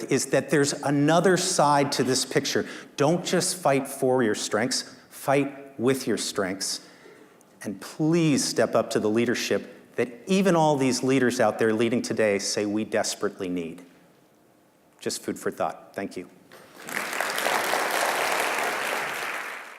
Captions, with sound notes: is that there's another side to this picture. Don't just fight for your strengths, fight with your strengths. And please step up to the leadership that even all these leaders out there leading today say we desperately need. Just food for thought, thank you. (applause)